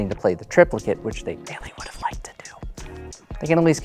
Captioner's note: whispers